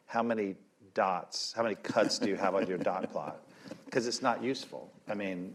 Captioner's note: laughter